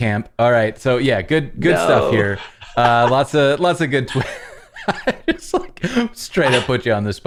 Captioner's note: laughter